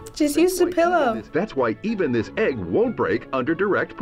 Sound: voice-over

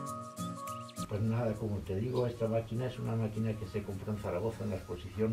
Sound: bouncy music; speaking in Spanish

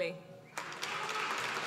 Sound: applause

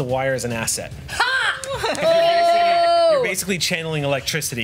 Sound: cheers

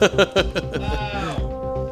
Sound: laughing

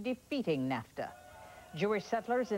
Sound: background: yelling

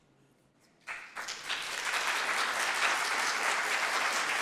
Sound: group applauds

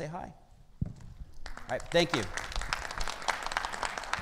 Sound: audience applauding

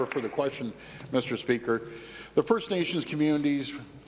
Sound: applause

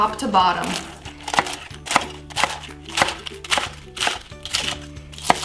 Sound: lettuce crunching

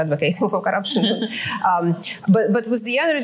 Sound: laughs

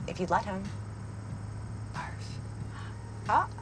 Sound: Fiona gasps

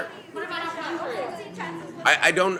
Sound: background chatter

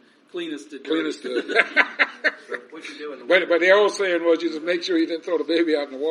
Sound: laughing

